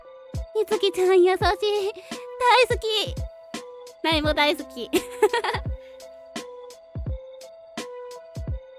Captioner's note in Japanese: 笑い